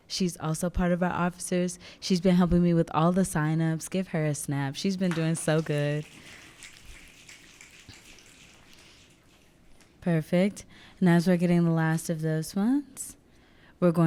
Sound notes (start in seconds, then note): 5.9 audience snapping